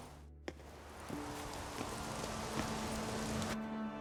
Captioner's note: raindrops pattering